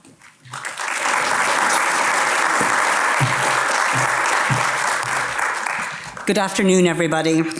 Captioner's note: applause